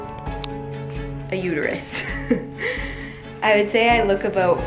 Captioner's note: laughs